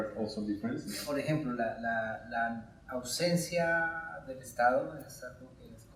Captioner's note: speaking in Spanish